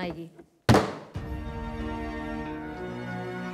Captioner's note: Gavel bangs